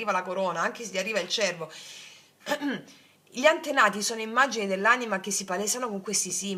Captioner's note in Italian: schiarire la voce